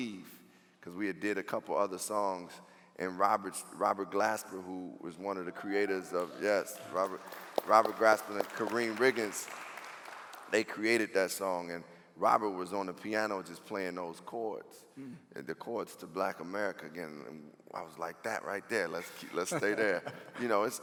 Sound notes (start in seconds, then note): 5.5 cheering